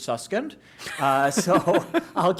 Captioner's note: laughter